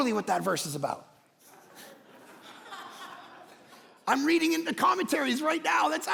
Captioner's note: congregation laughing